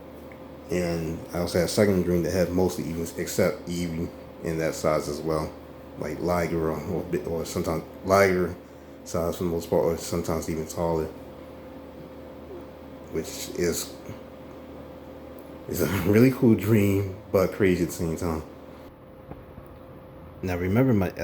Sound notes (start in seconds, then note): 15.7 sighing